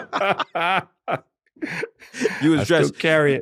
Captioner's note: laughter